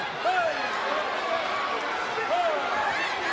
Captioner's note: crowd chatter; crowd cheering